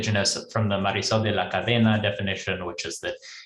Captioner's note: speaks in foreign language